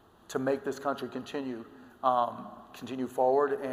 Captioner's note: none